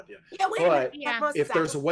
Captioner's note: overlapping chatter